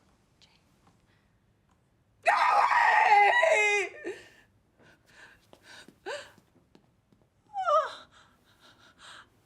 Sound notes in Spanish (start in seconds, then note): 1.7 gritando; 3.4 sollozando